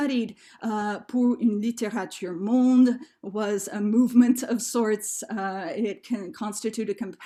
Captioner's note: speaking french